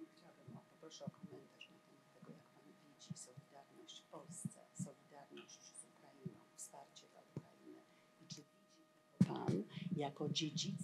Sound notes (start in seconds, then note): 1.6 foreign language